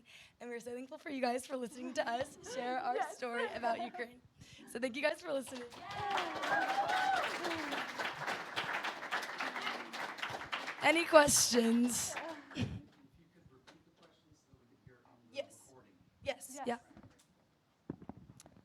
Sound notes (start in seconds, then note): 5.4 applause